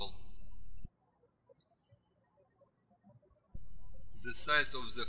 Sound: birds chirping

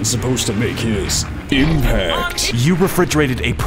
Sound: impact

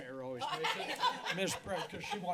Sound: laughter

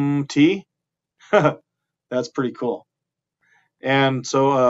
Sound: chuckling

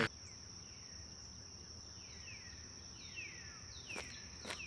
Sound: birds chirping; insects buzzing; birds chirping; dirt crunching

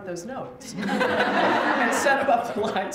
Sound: laughter

